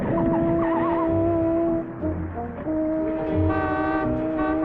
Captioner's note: tries screeching; horn honking